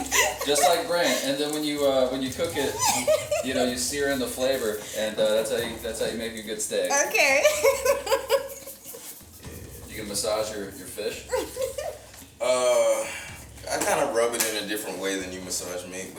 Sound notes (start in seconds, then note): 7.2 laughs